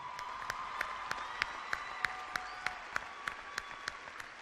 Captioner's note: clapping and cheering